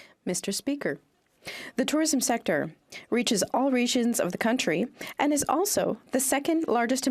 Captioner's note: speaking French